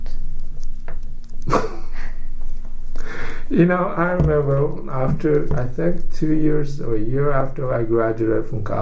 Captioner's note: laughs